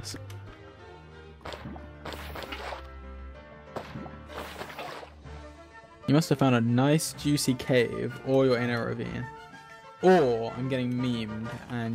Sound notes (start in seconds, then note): none